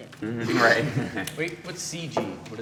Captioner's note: snickers